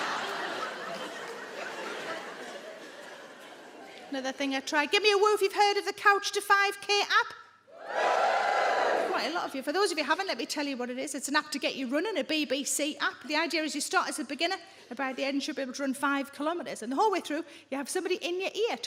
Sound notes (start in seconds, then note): 0.0 adience laughing; 7.8 audience woos